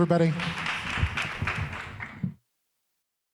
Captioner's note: audience clapping